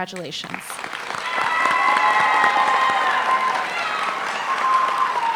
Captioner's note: applause